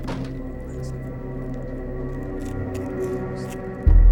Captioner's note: Andrew whispers